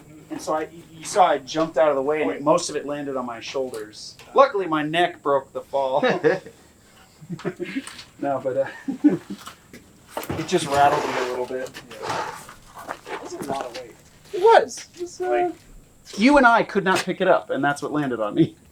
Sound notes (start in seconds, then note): 7.1 laughter